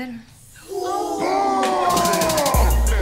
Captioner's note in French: huée